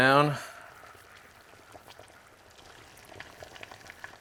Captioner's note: pot bubbling